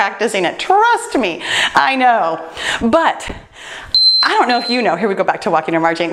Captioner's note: timer beeps